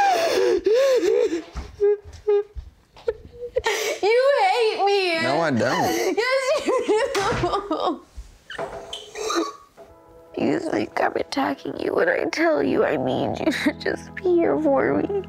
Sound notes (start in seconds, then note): 9.1 sobbing